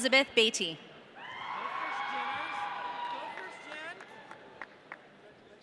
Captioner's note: audience cheering